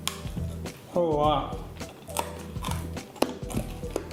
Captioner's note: crunch noise